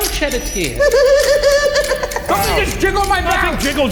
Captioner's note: silly laughs